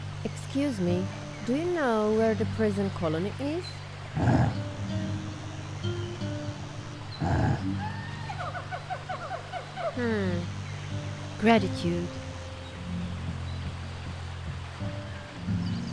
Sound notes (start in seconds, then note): 4.1 grunt; 7.2 grunt